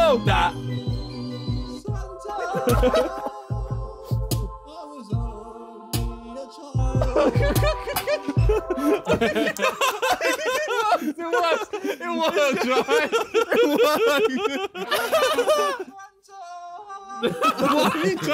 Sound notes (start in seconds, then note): 7.2 Sidemen laughing; 13.7 laughing